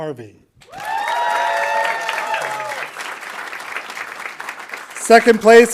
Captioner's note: audience applauding